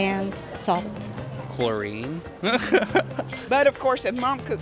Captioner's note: laughs